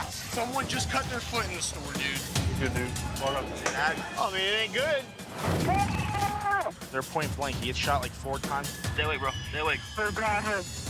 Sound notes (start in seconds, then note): 5.4 gunfire